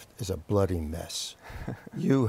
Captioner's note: laughter